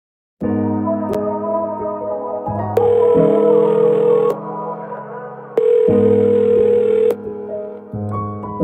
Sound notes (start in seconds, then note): 0.4 gentle somber music; 3.0 phone ringing